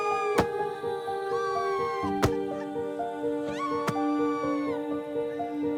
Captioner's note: punching